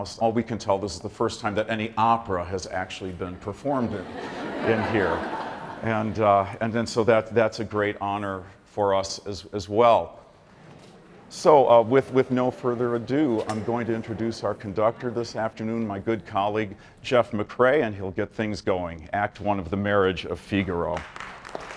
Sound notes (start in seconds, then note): 3.5 audience laughing